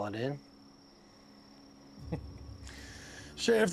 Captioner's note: chuckles